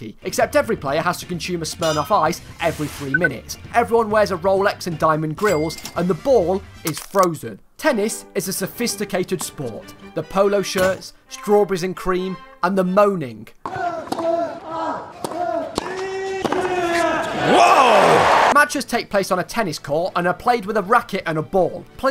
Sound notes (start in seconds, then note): 13.6 tennis players grunting